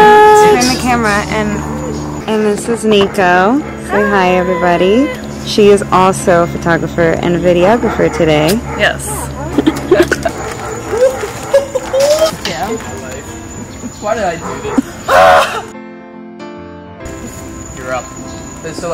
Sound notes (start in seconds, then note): 9.4 chuckles; 15.0 screaming